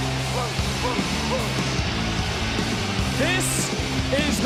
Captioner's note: crowd cheers